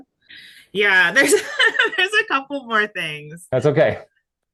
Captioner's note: laughing